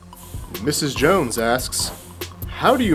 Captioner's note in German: Voice-over